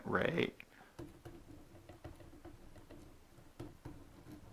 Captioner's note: writing